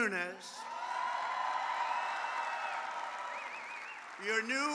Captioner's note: applause